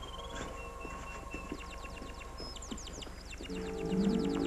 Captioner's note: birds chirping